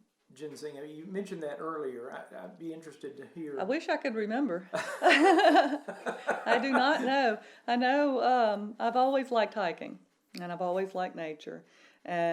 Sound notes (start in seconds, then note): 4.7 laughs